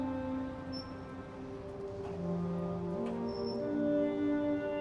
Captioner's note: gate creaking